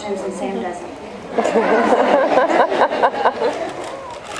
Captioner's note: laughs